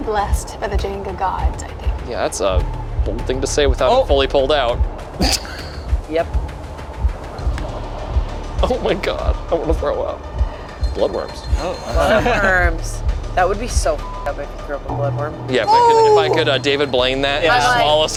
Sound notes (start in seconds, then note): 13.7 beeps